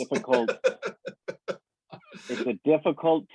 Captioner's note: laughs